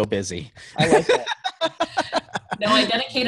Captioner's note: laughs